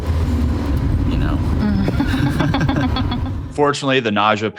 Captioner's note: giggling